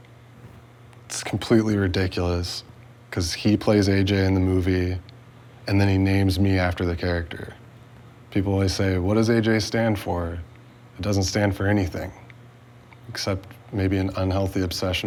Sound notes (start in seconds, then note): none